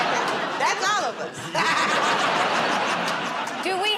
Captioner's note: laughter; laughs